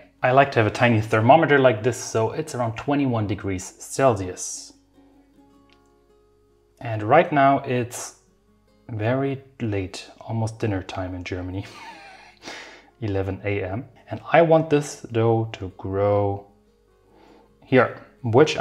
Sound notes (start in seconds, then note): 5.2 gentle music; 11.6 chuckling